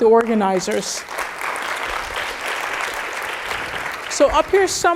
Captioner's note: applause